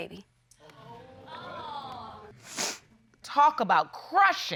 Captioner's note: audience exclaims; sniffles